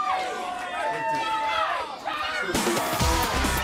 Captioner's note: crowd cheering